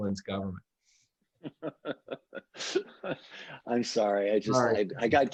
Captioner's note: laughs